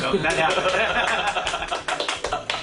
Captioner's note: laughter